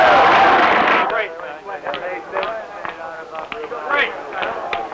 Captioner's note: chattering